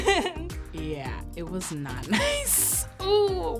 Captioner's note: laughs